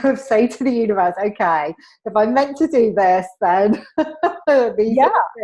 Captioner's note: laughs